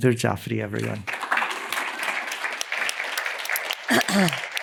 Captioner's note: applause